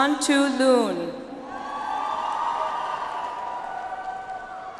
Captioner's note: audience applauds